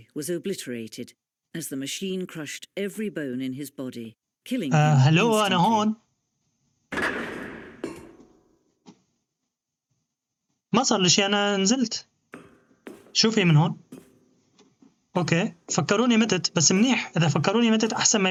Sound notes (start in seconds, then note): 7.0 clanging